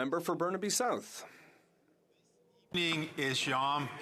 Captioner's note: applause